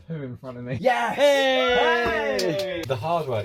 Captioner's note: cheers